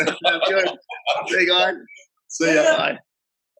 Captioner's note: laughs